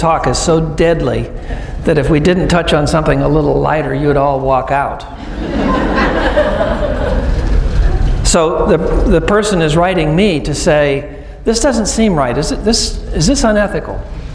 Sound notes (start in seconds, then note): 5.2 laughing